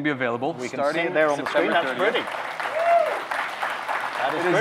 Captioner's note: simultaneous clapping